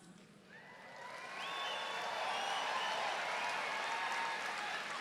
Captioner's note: audience cheering